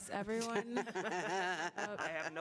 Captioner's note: laughter